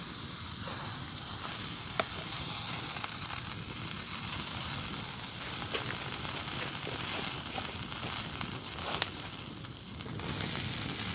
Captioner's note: steak sizzling